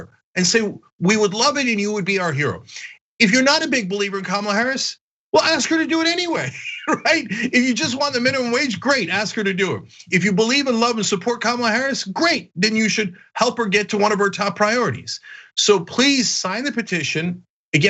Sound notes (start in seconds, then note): 5.4 laugh